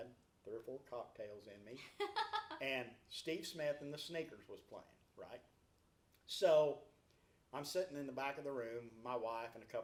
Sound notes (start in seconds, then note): 1.8 laughs